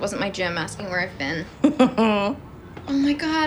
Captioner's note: chuckles